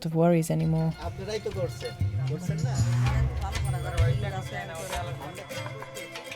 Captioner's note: foreign language